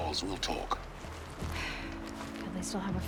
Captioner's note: sigh